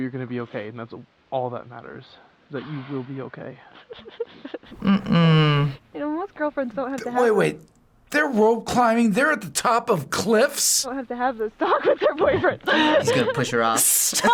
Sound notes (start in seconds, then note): 4.0 woman chuckles; 11.6 laughs